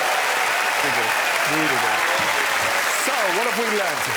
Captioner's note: cheering